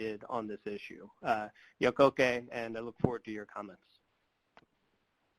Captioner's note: speaking Native language